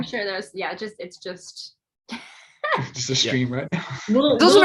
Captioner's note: laughs